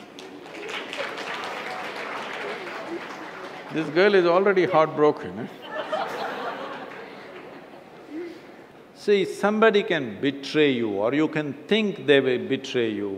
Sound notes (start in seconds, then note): 0.0 applause; 5.5 few laugh